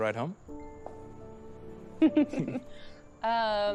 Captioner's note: laughs